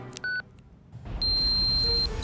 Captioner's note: beeping